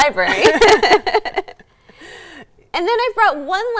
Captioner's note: both laugh